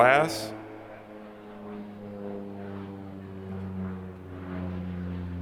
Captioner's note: plane engine whirring